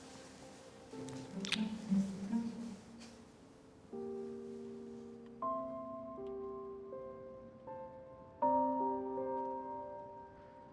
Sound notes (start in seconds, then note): 1.4 lips smacking; 4.9 gentle music